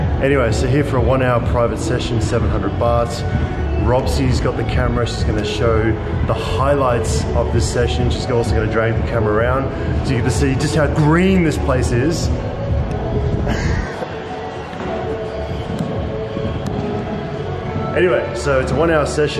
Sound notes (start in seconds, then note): 13.4 chuckles